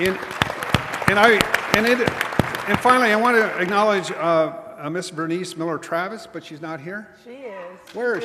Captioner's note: applause